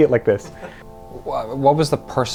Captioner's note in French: en riant